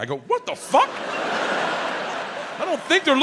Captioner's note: crowd laughing